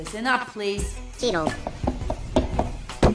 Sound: chitters

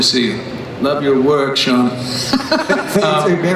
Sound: laughter

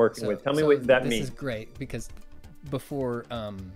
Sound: pat

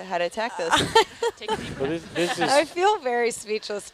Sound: laughing

